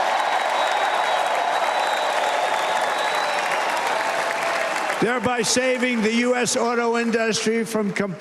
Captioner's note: cheers and applause